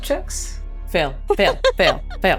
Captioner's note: chants; laughs